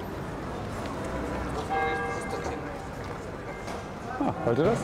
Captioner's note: bell ringing